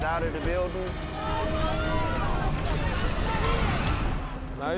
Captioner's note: crowd shouting